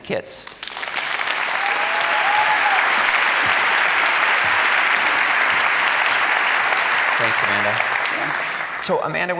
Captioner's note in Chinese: 掌聲